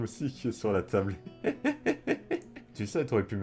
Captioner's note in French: Rires